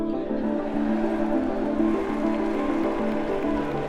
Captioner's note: audience applauds